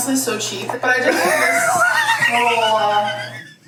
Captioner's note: laughs